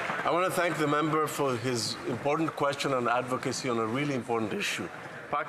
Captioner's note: applause